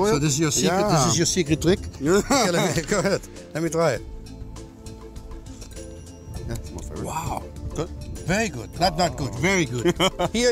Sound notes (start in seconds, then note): 2.5 laughing; 5.7 slurping; 9.6 laughs